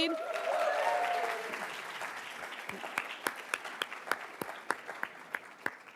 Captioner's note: attendees cheering and applauding